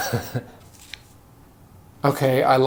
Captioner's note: chuckling